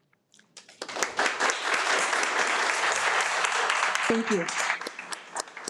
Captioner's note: audience applauding